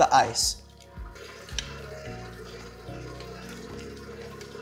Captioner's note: stirring